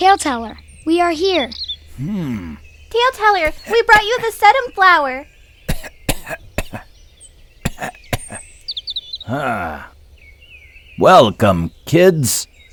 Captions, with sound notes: Taleteller, we are here. - Hmm. - Taleteller, we brought you the sedum flower. (Taleteller coughing) - Ah. Welcome, kids.